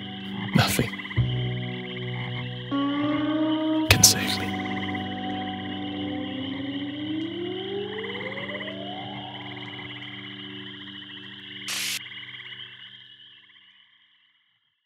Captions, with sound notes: Nothing can save me. (somber music continues) (swamp animals chattering continues)